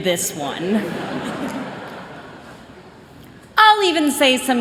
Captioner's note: chuckling